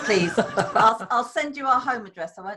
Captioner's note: laughter